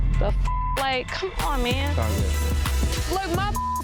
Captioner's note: beeps